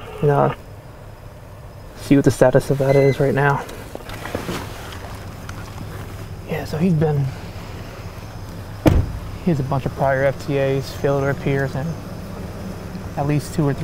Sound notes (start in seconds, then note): 2.7 radio buzzing; 8.7 car door thuds